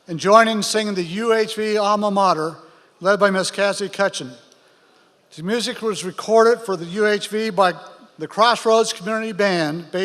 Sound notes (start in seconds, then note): none